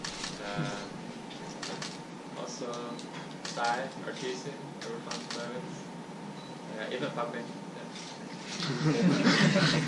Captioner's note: all laughing